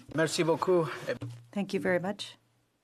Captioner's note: speaking French